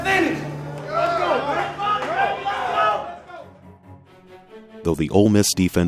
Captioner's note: excited chatter